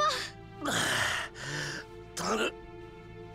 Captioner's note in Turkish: Nefes sesi